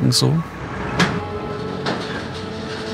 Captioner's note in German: Klappern